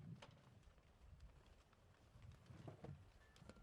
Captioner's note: none